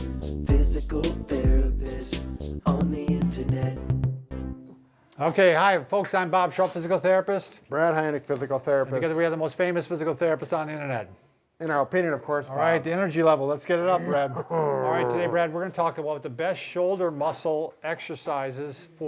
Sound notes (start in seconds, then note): 14.0 grunts